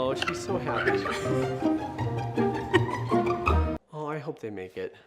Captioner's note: laughing